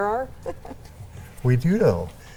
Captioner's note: chuckles